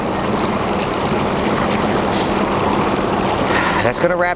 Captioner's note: water sloshing